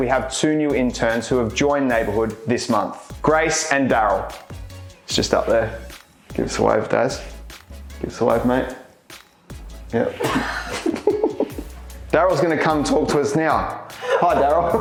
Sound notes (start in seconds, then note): 10.1 laughing